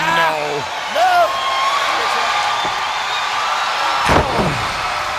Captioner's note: crowd cheering